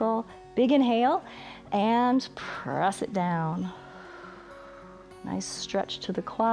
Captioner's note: exhales